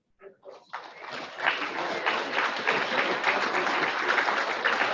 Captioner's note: audience applauds